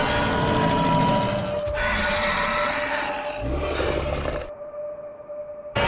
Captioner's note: Scorpius Rex vocalizing